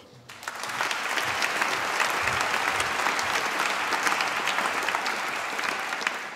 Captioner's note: applause